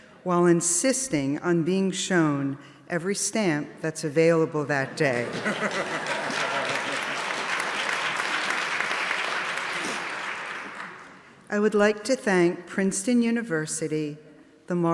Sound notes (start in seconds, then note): 5.2 audience laughing; 5.2 audience clapping